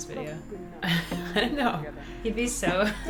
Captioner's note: laughs